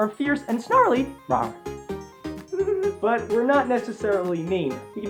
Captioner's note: rawr